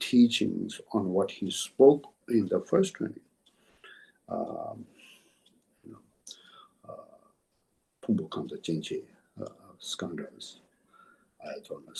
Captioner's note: tibetan